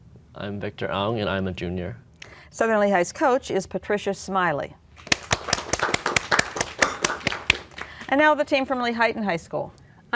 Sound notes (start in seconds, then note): 5.0 applause